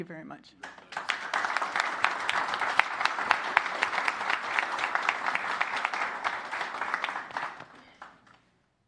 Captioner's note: applause